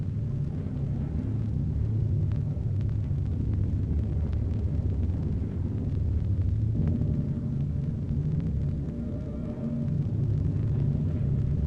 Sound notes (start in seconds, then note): none